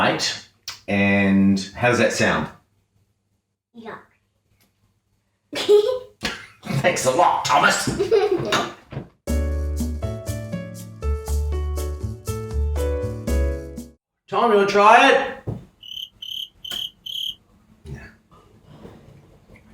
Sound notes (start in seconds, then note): 5.6 giggles; 7.7 laughs; 9.2 cheerful music; 15.8 crickets chirping